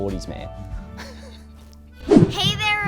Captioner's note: laughs